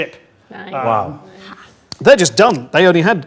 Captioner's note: overlapping chattering